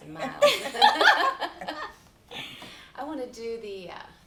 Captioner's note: laughing